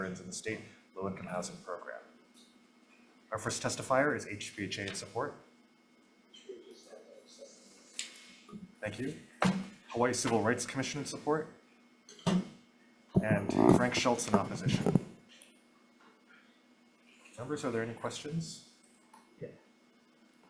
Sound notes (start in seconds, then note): 6.6 testifier faintly speaking